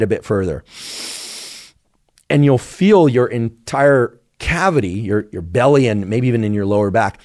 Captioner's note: sniffs